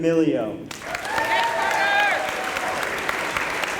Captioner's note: applause